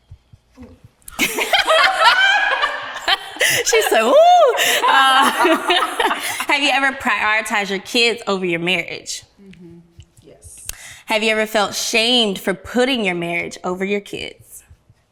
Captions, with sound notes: - Ooh. (ladies laughing) - She's so, ooh. Have you ever prioritized your kids over your marriage? - Mm-hmm. - Yes. - Have you ever felt shamed for putting your marriage over your kids?